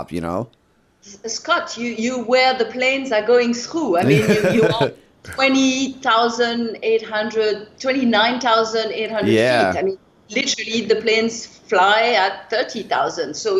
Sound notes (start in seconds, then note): 4.0 laughter